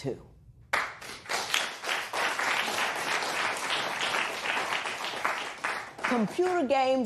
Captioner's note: applause